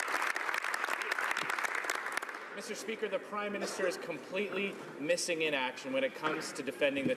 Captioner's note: some Applause